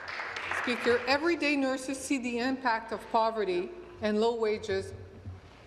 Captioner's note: applause